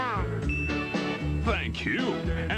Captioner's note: ding